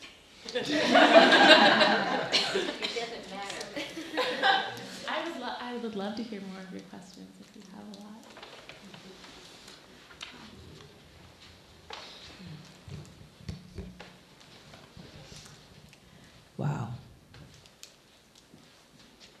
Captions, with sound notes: (laughing) - [Woman's Voice] It doesn't matter. - I would love to hear more of your questions, if you have a lot. - Wow.